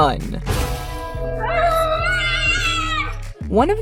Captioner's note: angry screaming